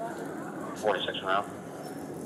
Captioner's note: radio chatter